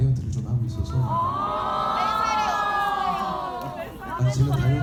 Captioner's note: audience groaning; audience member speaking in foreign language